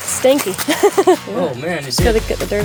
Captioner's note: laughs